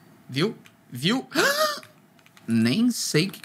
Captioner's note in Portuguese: som de surpresa